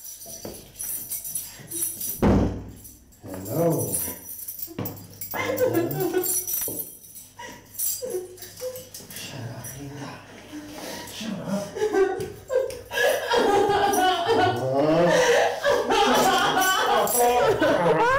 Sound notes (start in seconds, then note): 12.4 Linda sobs hysterically